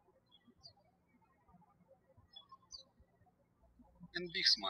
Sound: birds chirping

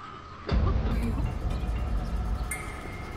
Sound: clears throat

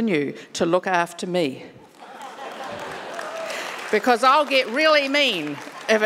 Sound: audience laughing and clapping

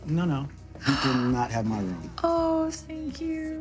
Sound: gasps

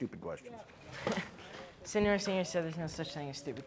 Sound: chuckles

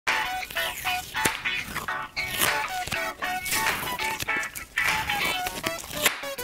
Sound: scratching noise

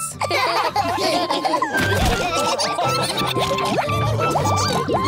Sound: all laughing

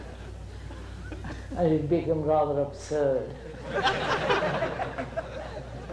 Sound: laughter

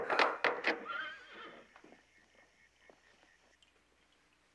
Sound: horse neighs

